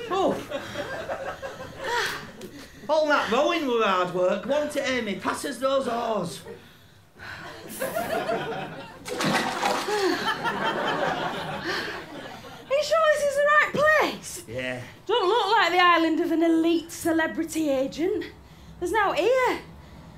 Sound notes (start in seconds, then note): 9.0 big splash; 9.6 laughter